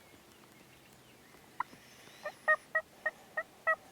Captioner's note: turkey calling